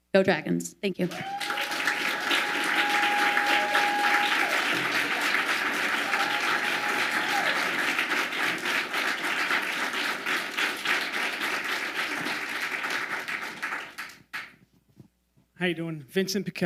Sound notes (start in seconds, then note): 1.5 audience applauding